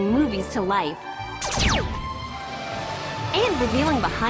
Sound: animated gunshot sounds

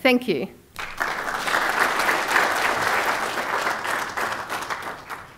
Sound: applause

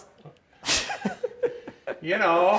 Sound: laughs

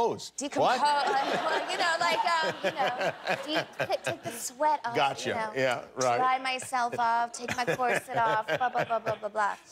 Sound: laughter

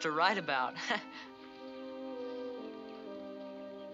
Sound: chuckles

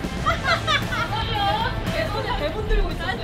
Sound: hahahahahaha

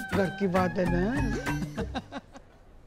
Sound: giggling

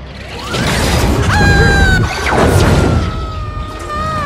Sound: girl-like screaming

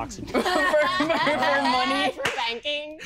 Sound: laughing

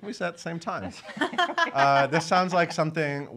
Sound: laughing

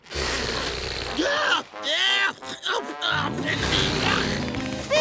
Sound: flatulence; disgusted noises

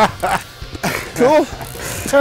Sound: laughing

